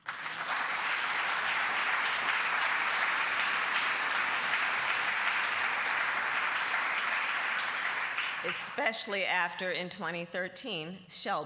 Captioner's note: applause